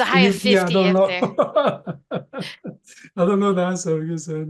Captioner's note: laughing